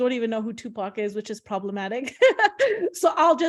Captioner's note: laughs